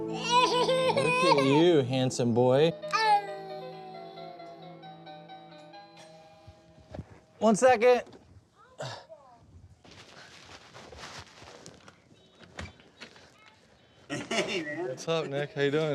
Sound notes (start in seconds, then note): 0.1 whining; 4.9 door bell rings